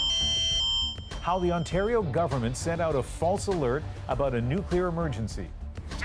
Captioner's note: alarm sounding